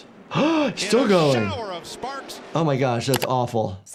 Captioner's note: gasping; button clicking